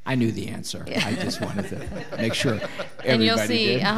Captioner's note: all laughing